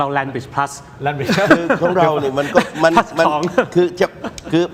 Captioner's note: laughter